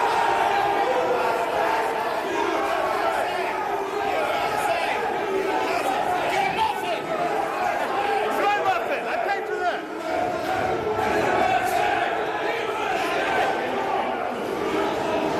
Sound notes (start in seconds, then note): 0.0 crowd noise